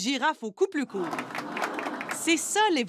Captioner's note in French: cris et applaudissements